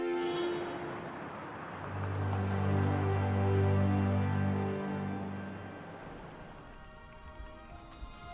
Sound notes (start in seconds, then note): 0.8 city sounds